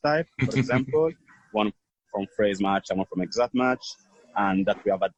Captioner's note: chuckle